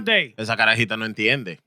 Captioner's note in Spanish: Hablando en idioma extranjero